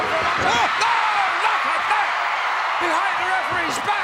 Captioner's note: crowd cheers